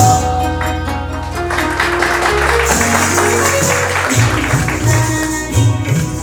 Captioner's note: applause over continuing music